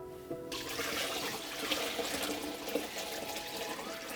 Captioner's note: water burbling